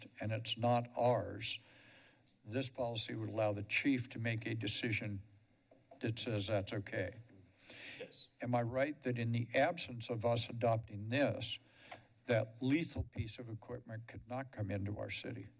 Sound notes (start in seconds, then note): none